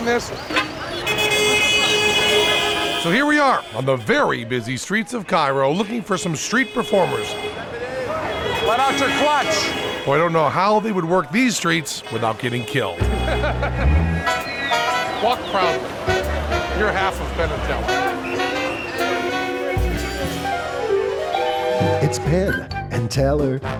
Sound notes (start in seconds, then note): 0.2 traffic noise; 6.9 traffic noise; 12.8 traffic noise; 21.6 theme song